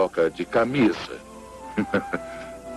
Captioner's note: chuckles